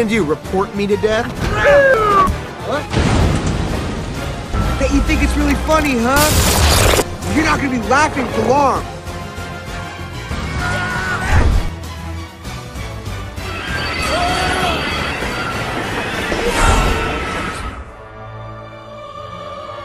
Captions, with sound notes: What're you gonna do, report me to death? huh? *explosioningnoise* Bet you think you think it's really funny, huh? You're not gonna be laughing for long. unahhhenahh *Shrek yelling*